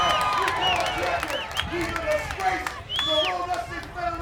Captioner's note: applause